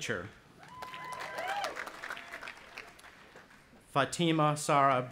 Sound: audience applauding and cheering

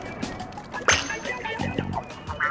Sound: high pitched ping

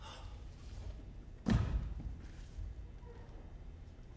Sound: man breathes hard

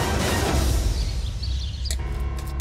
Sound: birds chirping

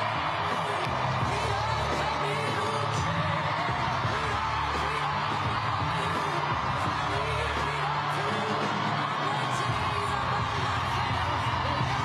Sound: applause

